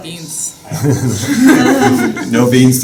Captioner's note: laughter